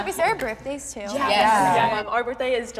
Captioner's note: crowd